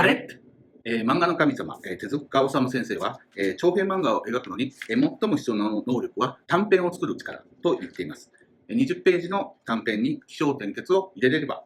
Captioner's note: speaking Japanese